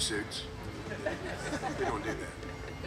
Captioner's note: group laughing